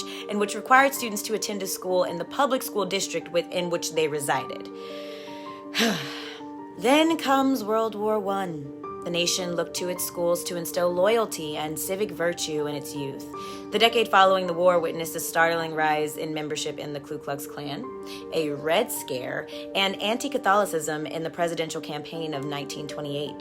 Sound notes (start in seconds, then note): 5.7 sigh